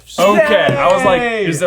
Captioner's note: ding